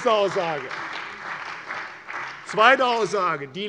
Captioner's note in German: Beifall bei der CDU und dem BÜNDNIS 90/DIE GRÜNEN